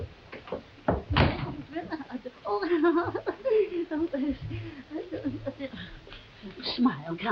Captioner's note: laughing nervously; door slams